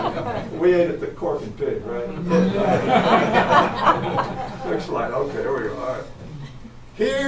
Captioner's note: audience laughs